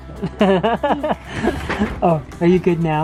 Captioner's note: laughs